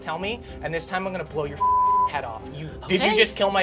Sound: beep

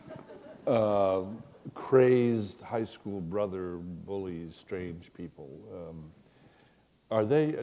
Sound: chuckle

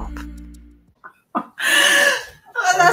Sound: laughing

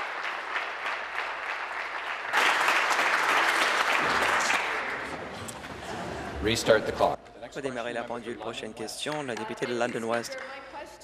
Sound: applause

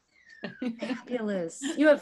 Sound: chuckling

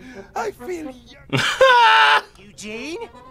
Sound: laughs

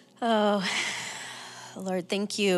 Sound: sighs

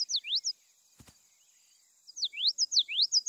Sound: bird chirps

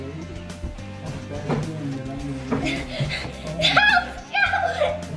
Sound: muffled by heavy breathing

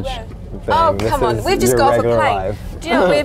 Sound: laughs

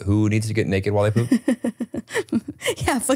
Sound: chuckles

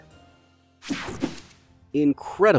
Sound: logo whooshes

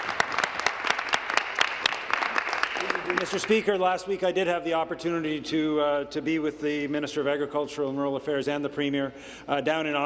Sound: applause

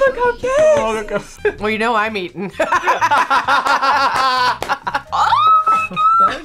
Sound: both laugh

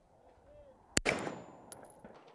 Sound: bang

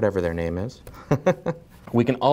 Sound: laughs

